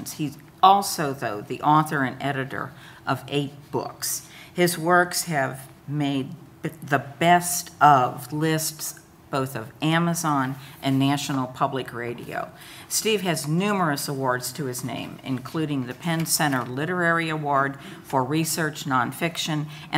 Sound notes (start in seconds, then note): none